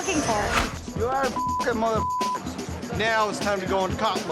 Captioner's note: beep